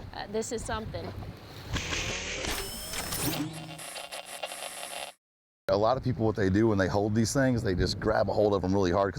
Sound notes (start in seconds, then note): 1.7 mechanical and static noise